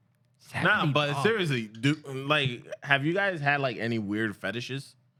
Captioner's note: speaking Spanish